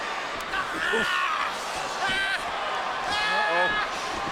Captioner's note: Rey yells